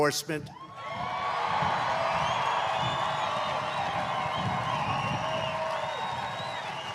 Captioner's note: applause